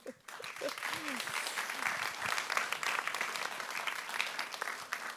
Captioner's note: every laughing; audience applauding